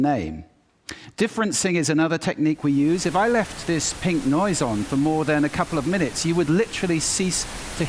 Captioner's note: static noise plays